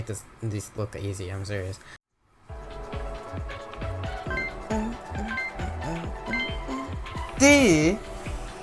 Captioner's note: humming